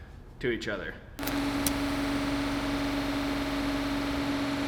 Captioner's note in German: Maschine läuft